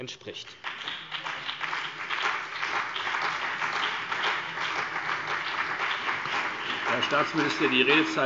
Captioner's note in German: Beifall CDU und BÜNDNIS 90/DIE GRÜNEN